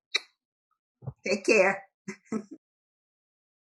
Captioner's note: laughs